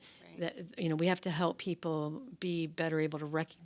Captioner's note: none